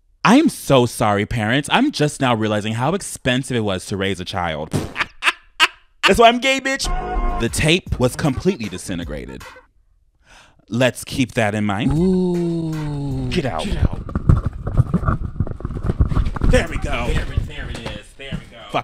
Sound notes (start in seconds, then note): 5.0 laughing; 13.8 box rumbling